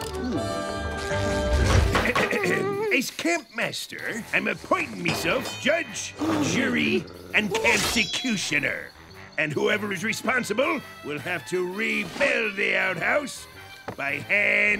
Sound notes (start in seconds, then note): 1.3 clearing throat